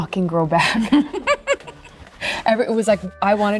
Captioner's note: Penelope laughing